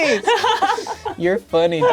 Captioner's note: laughing loudly